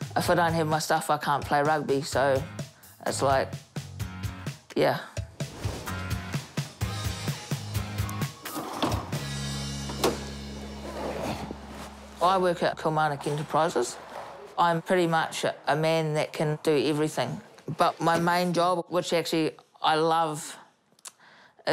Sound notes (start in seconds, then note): 5.5 upbeat music; 10.8 grunts